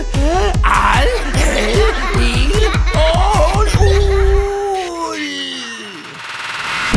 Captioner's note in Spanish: risas